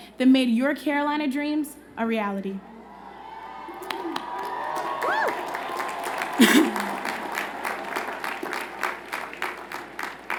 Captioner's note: cheers and Applause